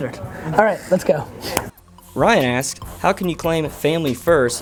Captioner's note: voiceover